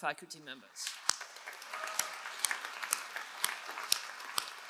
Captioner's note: all applauding